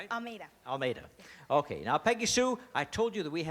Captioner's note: none